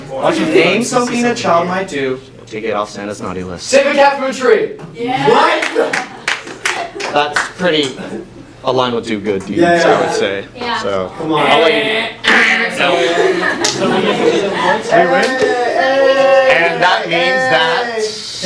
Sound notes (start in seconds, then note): 5.6 unenthusiastic clapping; 12.8 laughter